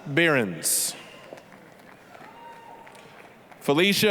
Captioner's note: applause